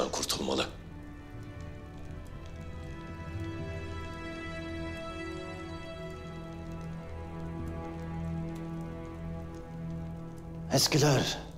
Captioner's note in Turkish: Ateş hışırtısı sesleri